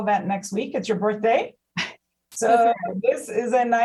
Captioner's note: laughs